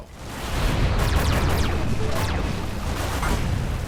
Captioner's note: game sounds